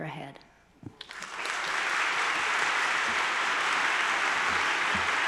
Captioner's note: attendees applauding